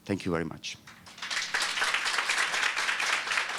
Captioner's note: applause